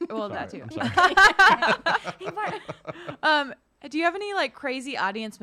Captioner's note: laughing